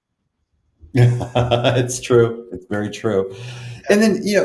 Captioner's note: laughs